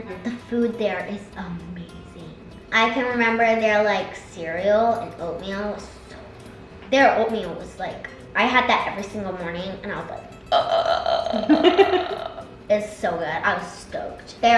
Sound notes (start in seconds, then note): 10.4 burps; 11.0 laughs